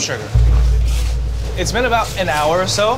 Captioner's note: strainer rustling